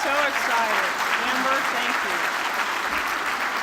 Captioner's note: applause